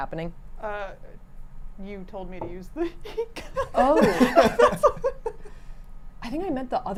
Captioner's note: laughing